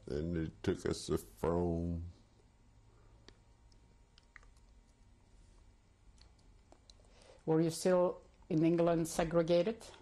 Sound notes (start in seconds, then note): 1.6 pauses for 6 seconds